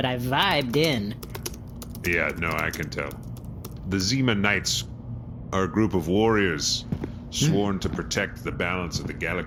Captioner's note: pacing